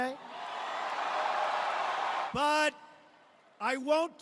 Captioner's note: cheers and applause